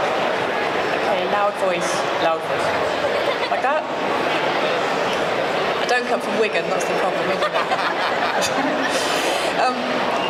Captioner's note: laughter